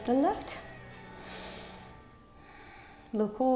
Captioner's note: inhales and exhales